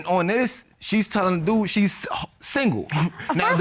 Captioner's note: scoff